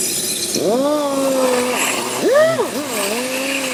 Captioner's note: sander hums